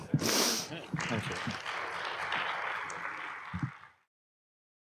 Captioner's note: applause